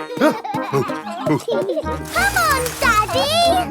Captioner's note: peppa and george laughing; panting